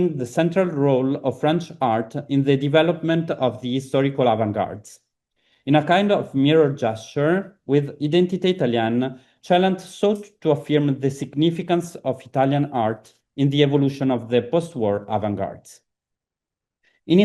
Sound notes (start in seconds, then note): 8.4 italian